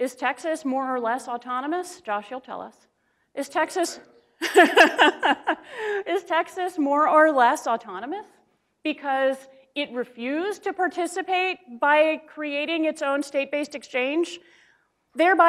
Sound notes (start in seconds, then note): 4.4 laughs